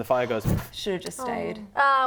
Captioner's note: poof